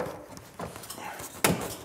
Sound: groan

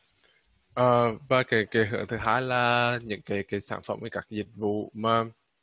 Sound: speaking Vietnamese

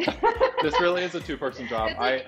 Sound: laughing

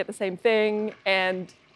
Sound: trickling

